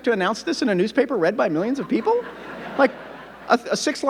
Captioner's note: audience laughing